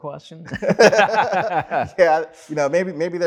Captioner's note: laughing